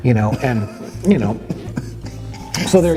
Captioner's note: laughs